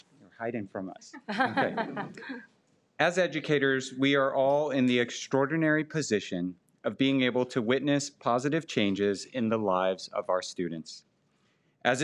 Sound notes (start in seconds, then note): 1.3 person laughing